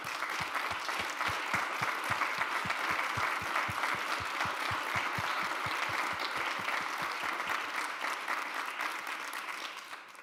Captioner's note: applause